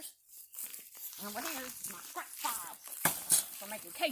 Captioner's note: jabs scrap with shovel